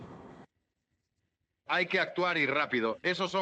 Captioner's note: none